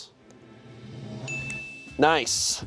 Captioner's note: chime dings